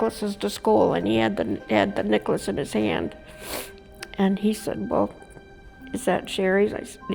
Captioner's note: sniffs